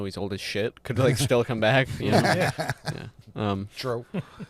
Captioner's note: laughter